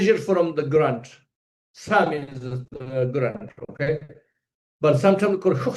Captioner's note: tibetan; tibetan